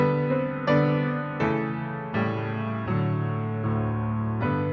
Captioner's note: none